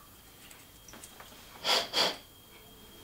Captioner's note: he blows